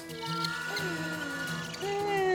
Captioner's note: raccoon chatters